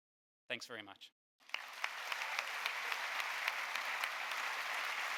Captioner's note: audience applauding